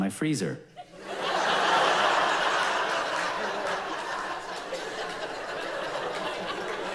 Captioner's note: audience laughs loudly